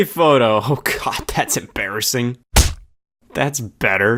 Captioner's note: hand smack